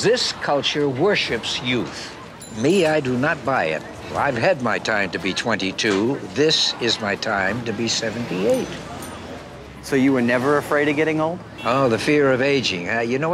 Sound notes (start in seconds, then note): 3.7 laughter, Murmuring